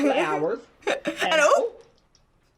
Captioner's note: giggles